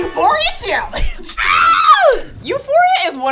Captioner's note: screams